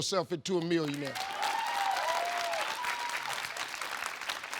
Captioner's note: audience clapping